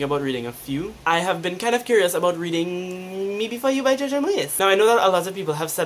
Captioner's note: hesitantly